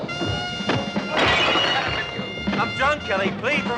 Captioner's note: glass Shatters